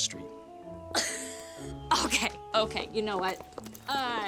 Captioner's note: laughs